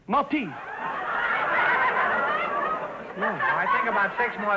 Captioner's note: audience laughter